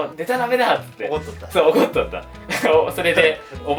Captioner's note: laughs